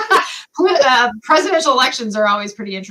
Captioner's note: laughter